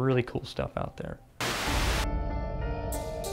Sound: static

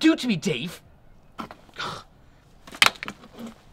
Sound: sighs

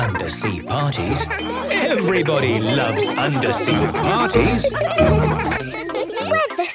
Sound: laughter

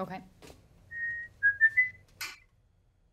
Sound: whistles notes

